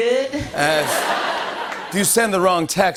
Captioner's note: laughter